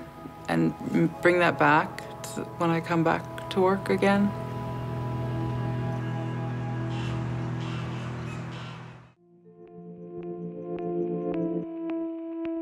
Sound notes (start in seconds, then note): 7.1 distant goose honking; 10.9 soft electronic music